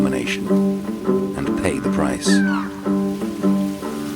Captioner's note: birds cawing; soft music